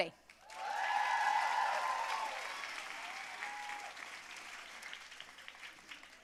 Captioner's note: audience cheering and applauding